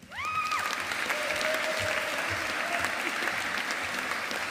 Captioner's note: audience applauding